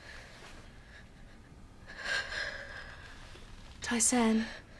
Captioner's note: Tai-San shivering